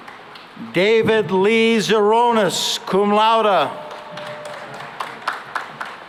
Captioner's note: applause